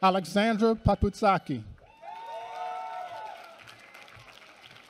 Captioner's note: applause